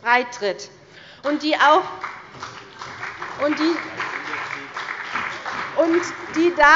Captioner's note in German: Beifall bei der CDU und dem BÜNDNIS 90/DIE GRÜNEN